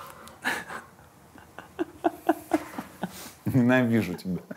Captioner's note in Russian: Ира хохочет